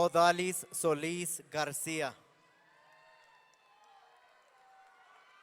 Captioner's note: audience cheering